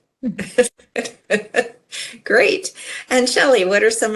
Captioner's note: laughs